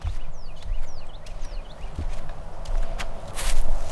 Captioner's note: birds chirping